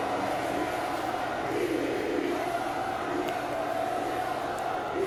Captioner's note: crowd chanting